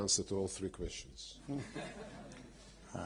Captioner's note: laughter